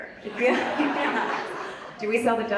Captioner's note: Vanessa and audience laughs